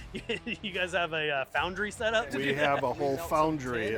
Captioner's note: chuckles